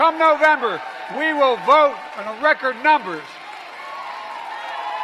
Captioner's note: applause